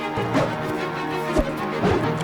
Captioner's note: sword unsheathed; wooshing